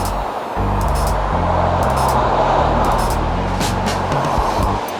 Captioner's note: vehicular traffic